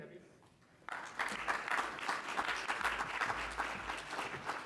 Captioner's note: congregation clapping